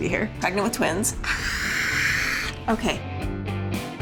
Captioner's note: mock scream